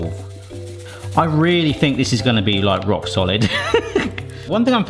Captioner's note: laughs